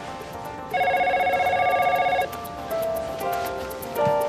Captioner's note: telephone ringing